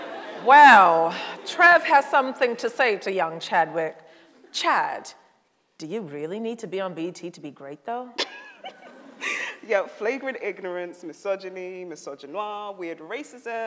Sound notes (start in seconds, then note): 8.2 laughs